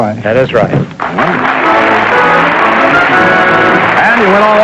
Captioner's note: applause